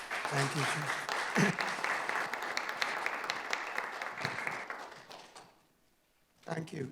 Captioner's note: audience applauding